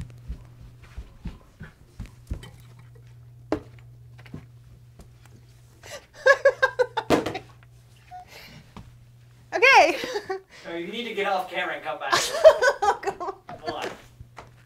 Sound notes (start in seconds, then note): 5.9 laughs; 7.0 container thumps; 12.1 laughs